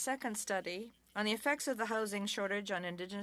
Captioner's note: speaking French